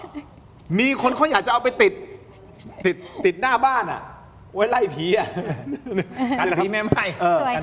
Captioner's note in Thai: เสียงหัวเราะ